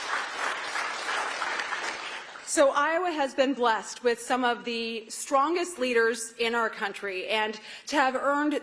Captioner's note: applause